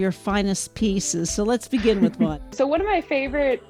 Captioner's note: giggle